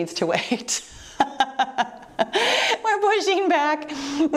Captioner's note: laughs